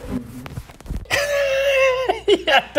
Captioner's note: laughs